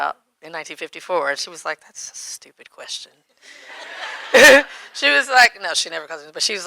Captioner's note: audience laughing